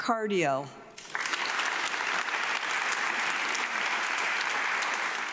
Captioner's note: audience clapping